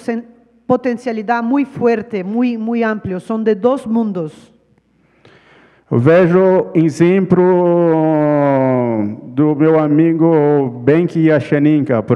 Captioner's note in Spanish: ponente habla en portugués